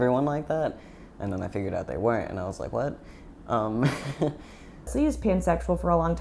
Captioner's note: chuckling